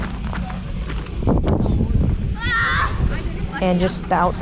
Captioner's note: children laughing and talking